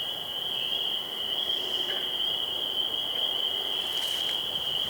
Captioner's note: cicadas continue buzzing